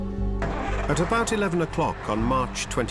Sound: engine starts

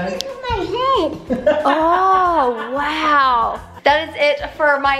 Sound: laughs

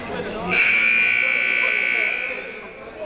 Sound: buzzer ringing; people talking in the crowd

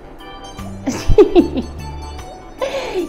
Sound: laughs

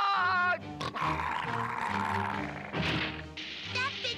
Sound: growling

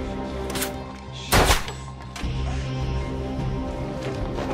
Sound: gun Shot

